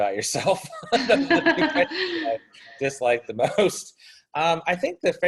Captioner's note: laughs